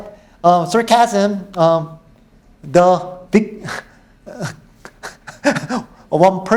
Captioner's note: laughs